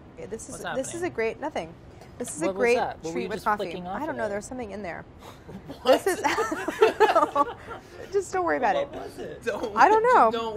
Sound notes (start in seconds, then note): 5.4 everyone chuckles